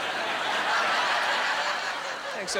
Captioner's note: laughing